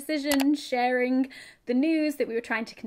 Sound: mouse clicking

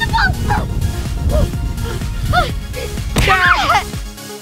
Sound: girl squealing

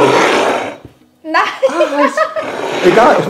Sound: laughing

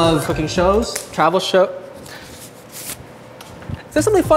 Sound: glove snapping

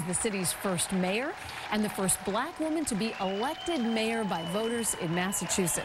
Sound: applause

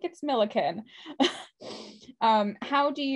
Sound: laughs

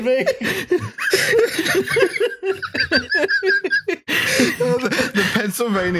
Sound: laughter

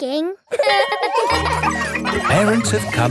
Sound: laughing

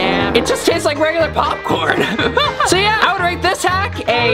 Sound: laughs

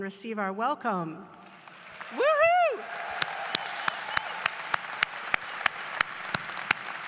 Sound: applause

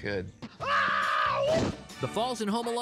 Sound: hollers

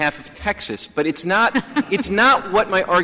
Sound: laughter

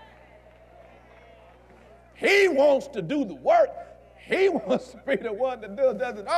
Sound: audience Agrees

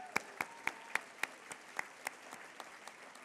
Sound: applause

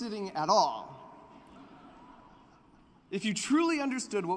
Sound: laughter

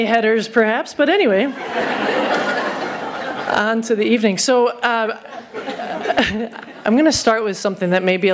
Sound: laughter

